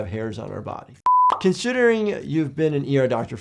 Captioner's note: screen beeping